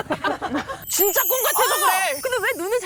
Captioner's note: dreamlike sound effect